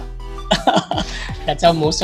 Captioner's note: laughs